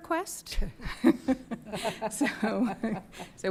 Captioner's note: chuckling